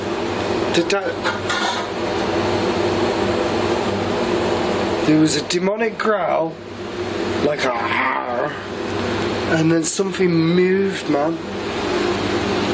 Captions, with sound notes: Did that-- (clattering) There was a demonic growl, like a (growls), and then something moved, man.